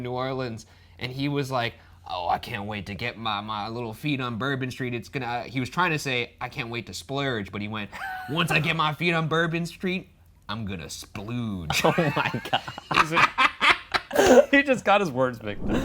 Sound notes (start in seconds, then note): 11.7 laughs